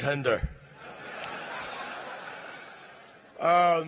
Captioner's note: laughter